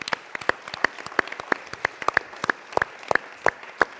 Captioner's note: applause